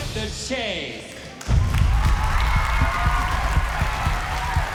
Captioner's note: cheering